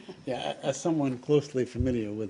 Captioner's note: laughter